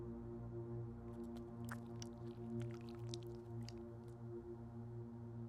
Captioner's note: blood squelching